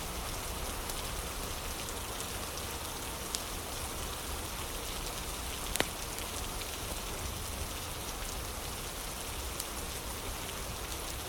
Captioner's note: fire crackling